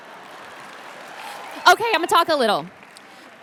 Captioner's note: audience cheers